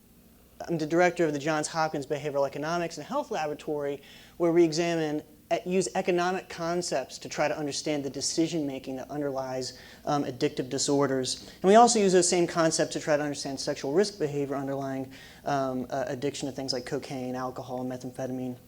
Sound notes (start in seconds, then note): none